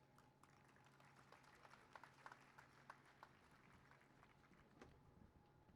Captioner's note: applause